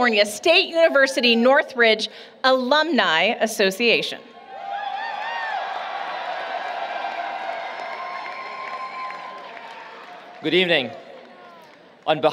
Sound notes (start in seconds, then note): 4.4 cheering